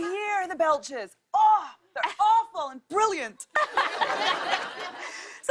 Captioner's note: laughter